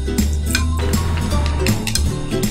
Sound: crunching

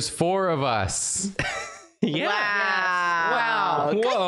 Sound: wheeze

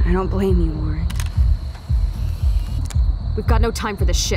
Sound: Polaroid shutter snapping

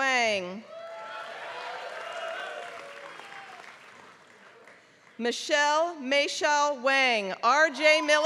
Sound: applause

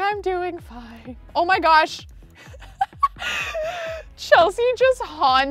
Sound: laughs

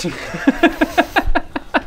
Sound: mocking laugh

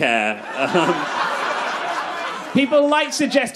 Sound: crowd laughs

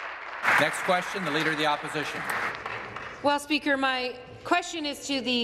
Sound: applause

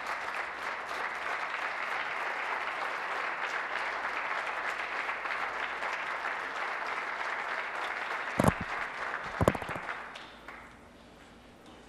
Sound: applause

